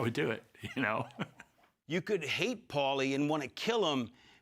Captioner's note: laugh